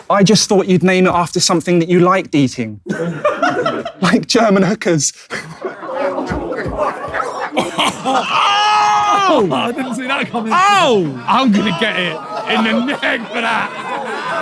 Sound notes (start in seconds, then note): 2.8 people in room laughing; 5.6 people in room chuckling and groaning